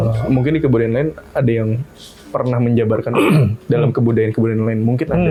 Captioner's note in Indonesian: berdehem